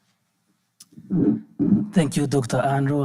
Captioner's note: microphone creaking